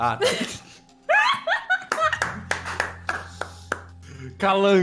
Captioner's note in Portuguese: Risadas; Mais risadas e palmas